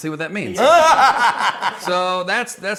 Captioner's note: laughing